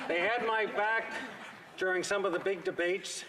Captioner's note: laughter